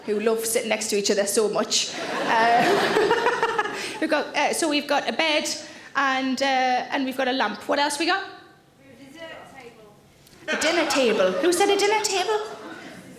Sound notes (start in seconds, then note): 1.9 audience laughing; 2.1 Sarah laughs